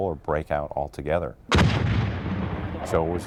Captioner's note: explosion